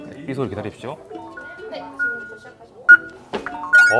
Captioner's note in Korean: 다이얼 소리